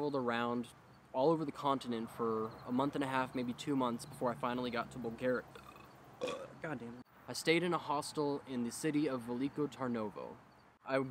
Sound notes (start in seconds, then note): 6.1 burps unexpectedly